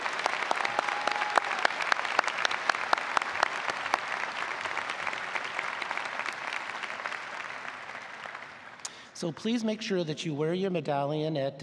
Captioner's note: applause